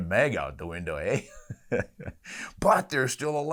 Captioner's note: laughs